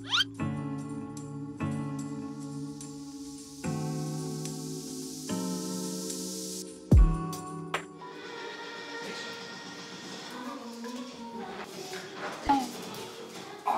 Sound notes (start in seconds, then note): 0.2 floor screeching; 8.1 TV show plays